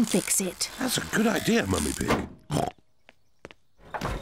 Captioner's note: oinks; oinks